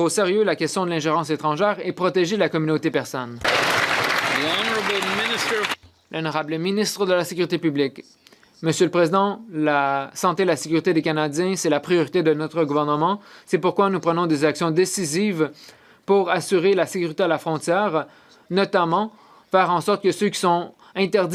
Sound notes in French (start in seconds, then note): 13.6 voix de l'interprète